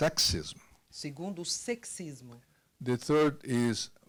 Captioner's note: translator speaking Portuguese